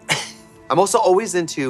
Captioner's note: Katya hissing